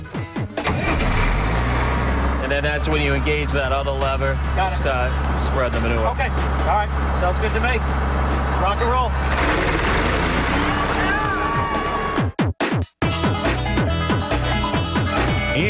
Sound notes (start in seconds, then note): 9.2 engine starts